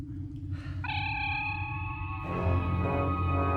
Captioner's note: transporter energizing